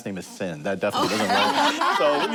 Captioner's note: laughter